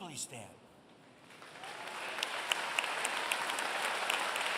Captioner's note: applause